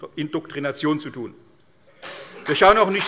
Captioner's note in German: Beifall bei der CDU und dem BÜNDNIS 90/DIE GRÜNEN